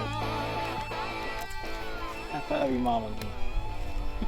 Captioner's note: speaker laughing; upbeat music